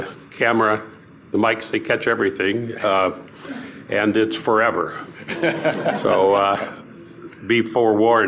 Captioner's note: laughter